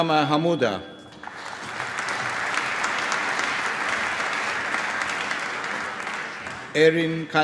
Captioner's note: applause